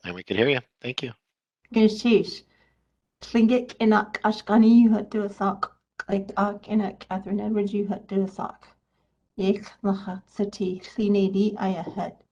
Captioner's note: speaking in native language